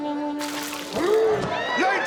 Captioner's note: splashing water; growling